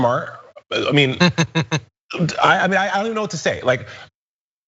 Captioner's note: laugh